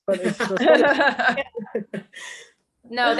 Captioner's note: they laugh